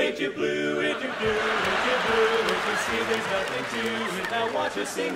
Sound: audience laughing

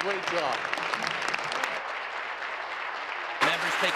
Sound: applause

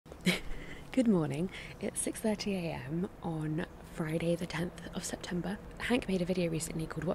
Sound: laughs

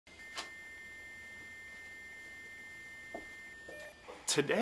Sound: fax machine whirring

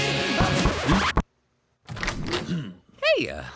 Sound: door knock

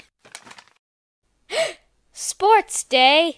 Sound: gasp

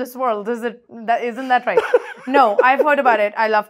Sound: laughs

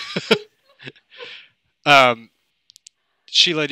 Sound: laughter

